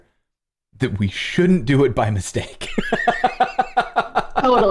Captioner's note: laughter